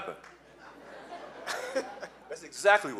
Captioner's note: laughing